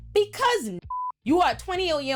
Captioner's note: beep